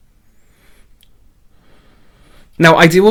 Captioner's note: sniffing